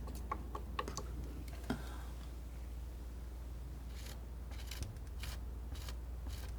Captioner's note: scratching